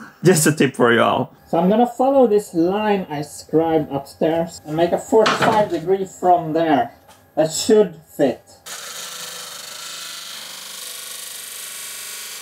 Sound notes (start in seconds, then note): 9.2 disk sander whirring